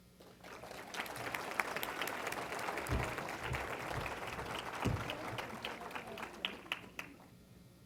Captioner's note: applause